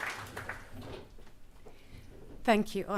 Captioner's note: applause